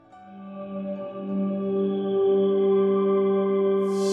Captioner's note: magic chimes